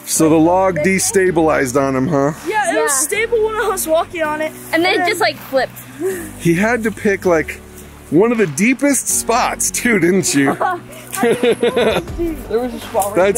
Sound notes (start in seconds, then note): 6.1 chuckles; 10.2 laughs